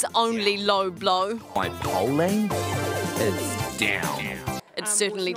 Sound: mocking accent

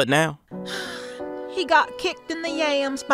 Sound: sighing

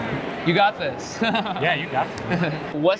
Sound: laughing

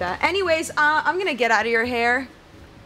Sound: none

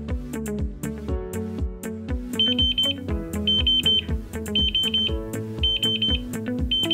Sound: pipipi, pipipi, pipipi

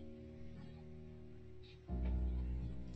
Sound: none

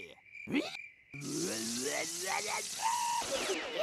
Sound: snarling

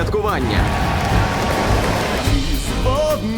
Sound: crowd cheering

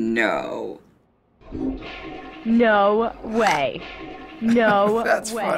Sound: toilet flushing; chuckles

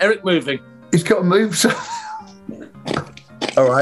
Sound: laughing

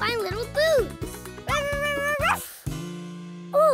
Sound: barking

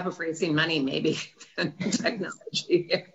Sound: laughs

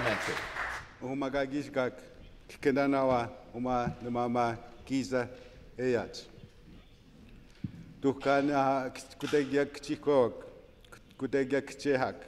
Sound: some Applause

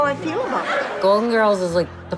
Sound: audience laughter

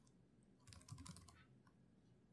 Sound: typing

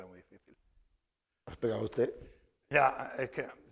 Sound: speaking spanish

